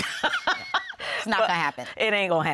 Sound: laughter

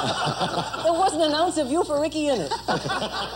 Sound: laughter

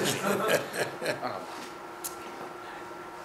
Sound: laughing

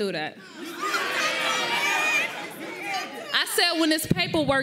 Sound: audience cheers

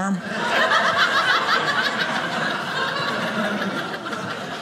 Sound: audience laughing

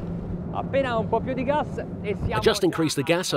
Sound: waves sloshing; speaking in Italian

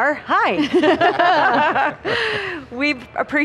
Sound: panel laughs

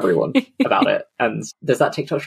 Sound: laughs

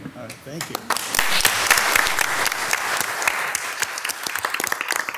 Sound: all loudly applauding

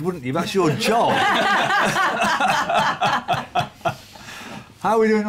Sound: laughter

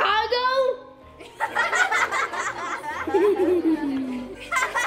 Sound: children laughing

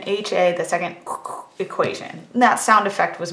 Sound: mimics sound effect

